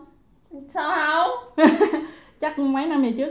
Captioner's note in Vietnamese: Cười